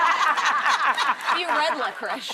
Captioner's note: audience laughing